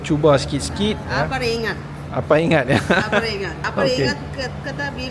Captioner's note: laugh